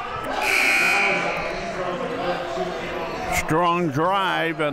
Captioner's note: buzzer ringing